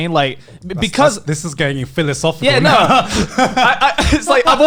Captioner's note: laughs